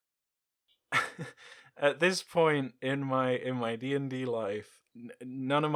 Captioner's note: chuckles